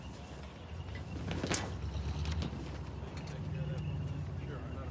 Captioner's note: people chattering